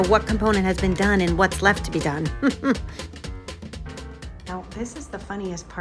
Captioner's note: laughs